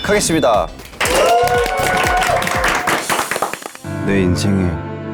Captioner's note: clap